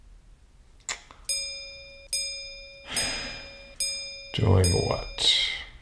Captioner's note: images dinging